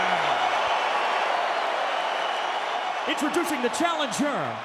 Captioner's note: audience cheering